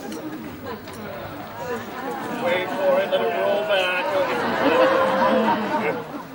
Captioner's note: audience groans